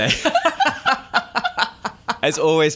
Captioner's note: laughter